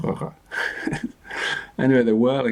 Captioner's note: chuckles